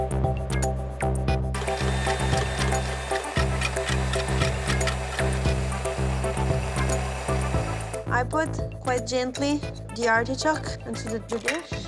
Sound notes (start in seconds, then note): 1.5 whirring